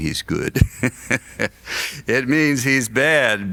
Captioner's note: laughs